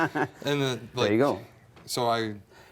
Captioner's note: all laughs